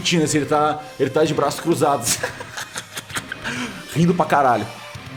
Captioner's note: laugh